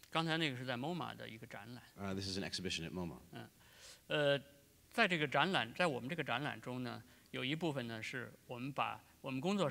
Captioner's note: speaking in Chinese; speaking in Chinese